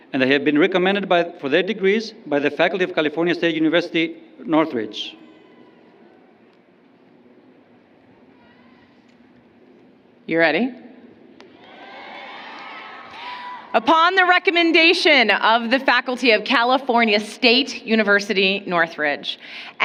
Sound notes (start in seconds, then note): 11.6 applause